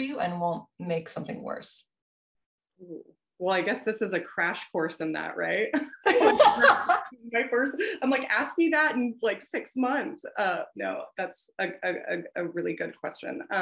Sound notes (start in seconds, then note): 6.0 both laughing